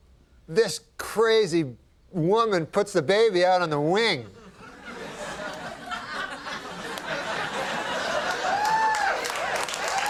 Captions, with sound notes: and this crazy woman puts the baby out on the wing. (Scattered laughter)